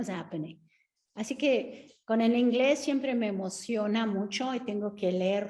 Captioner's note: Sandra speaking Spanish